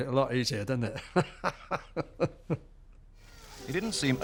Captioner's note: laughs